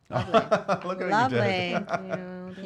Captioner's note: laughing